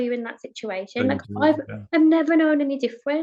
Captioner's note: speaking faintly